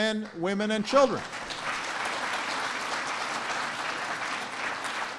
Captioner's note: applause